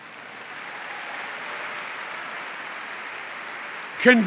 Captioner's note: applause